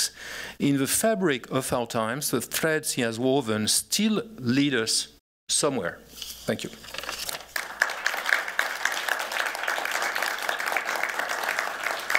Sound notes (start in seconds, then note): 7.2 applause